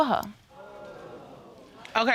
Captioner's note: audience exclaiming